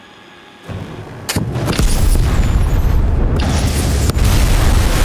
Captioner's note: explosion rumbling